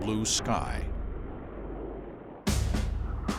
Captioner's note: engines roaring